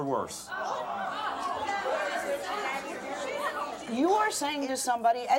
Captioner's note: angry chatter